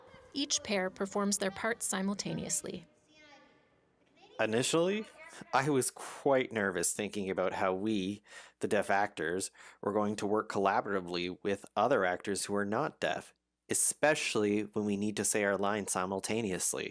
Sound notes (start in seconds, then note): none